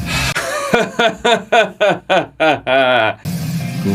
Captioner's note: very proudful laugh